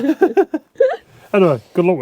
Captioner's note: laughing